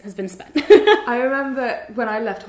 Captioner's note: laughs